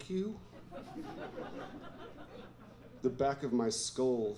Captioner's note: laughter